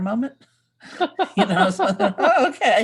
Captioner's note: laughing